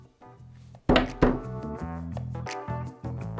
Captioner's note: drums the table; upbeat music